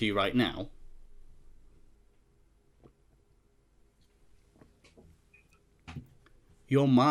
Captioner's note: hold on silence